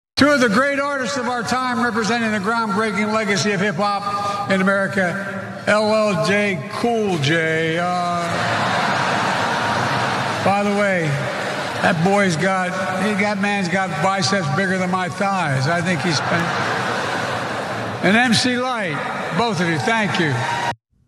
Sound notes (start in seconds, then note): 8.3 laugh